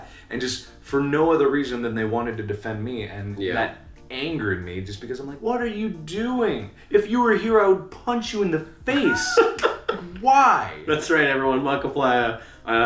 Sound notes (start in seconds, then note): 8.9 laughing